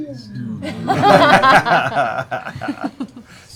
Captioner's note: laughter